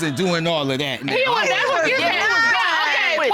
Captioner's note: indistinct chatter